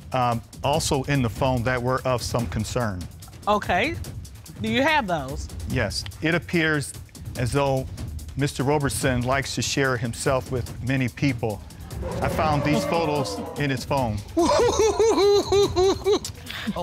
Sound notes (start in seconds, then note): 11.7 audience chuckles; 14.3 laughs